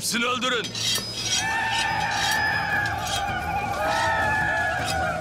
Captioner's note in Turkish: Bağırıyorlar